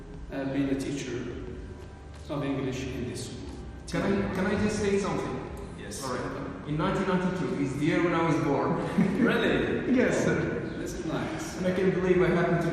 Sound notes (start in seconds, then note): 8.7 mutual laughter